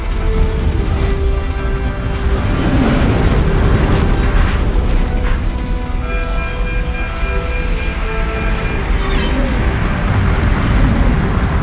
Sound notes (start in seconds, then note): 0.3 dramatic music swells; 4.5 alarm blaring